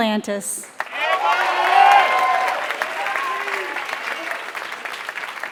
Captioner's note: applause